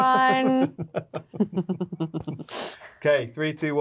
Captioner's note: both laughing